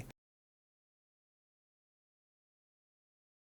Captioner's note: silence